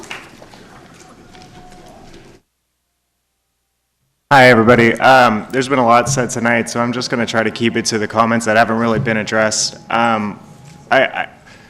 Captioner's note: applause